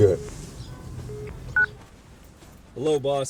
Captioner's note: beep